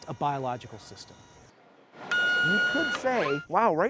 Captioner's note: machine beeping